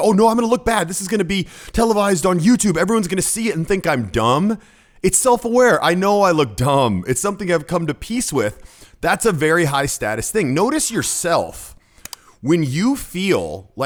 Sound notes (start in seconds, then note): none